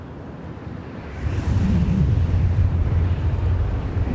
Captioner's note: wind blowing